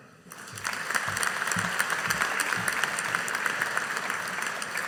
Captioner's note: audience applauding